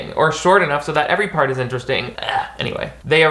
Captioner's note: groans